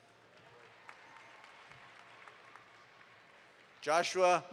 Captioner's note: audience applauds